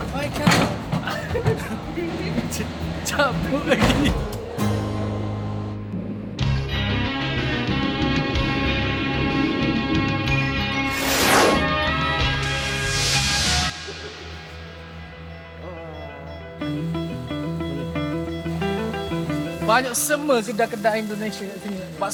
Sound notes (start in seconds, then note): 0.9 laugh; 4.4 laugh